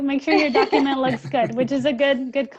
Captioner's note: laughing